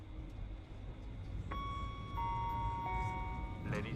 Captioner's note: chiming